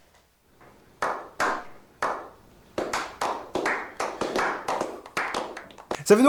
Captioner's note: lukewarm Applause